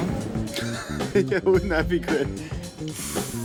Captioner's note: chuckling